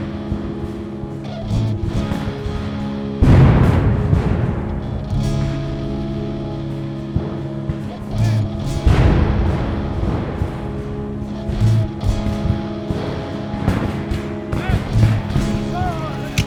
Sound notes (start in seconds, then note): 2.4 guns fire; 10.1 guns fire